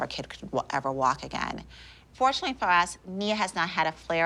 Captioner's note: none